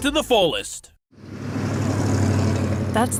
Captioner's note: engine rumbles